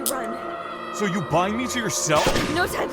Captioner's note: handcuffs click open